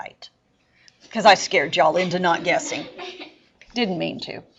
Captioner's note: students laugh